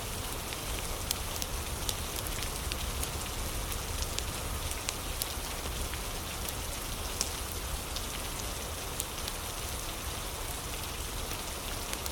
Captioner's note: fire crackling